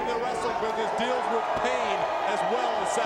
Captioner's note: crowd cheering